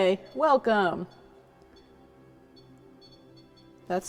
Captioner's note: REM pod beeping